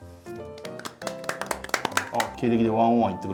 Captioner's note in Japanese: 拍手！